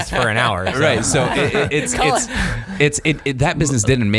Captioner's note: laughing